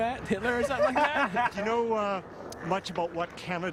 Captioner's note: voiceover